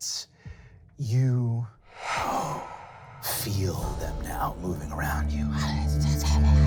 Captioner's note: gasping; murmuring